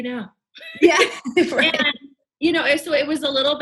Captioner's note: both laughing